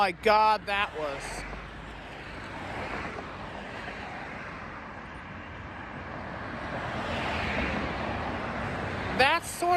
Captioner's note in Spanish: Sonidos de tráfico en State Boulevard